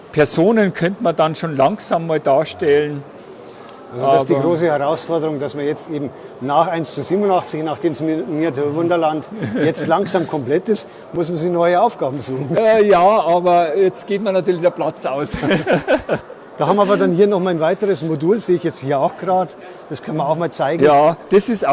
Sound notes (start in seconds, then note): 15.3 he laughs